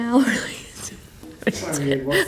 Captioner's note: laughing